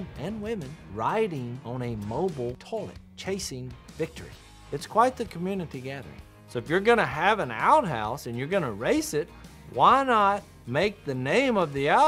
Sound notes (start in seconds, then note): none